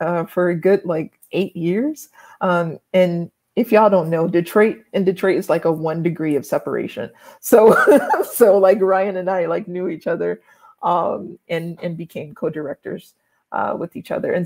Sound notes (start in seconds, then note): 7.6 laughs